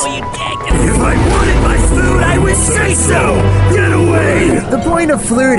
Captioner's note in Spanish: Voz maligna